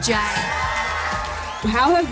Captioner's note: cheering